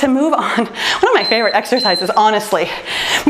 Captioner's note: timer beeps